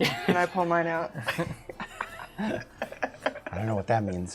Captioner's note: laughter